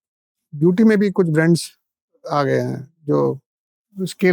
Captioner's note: speaking in Hindi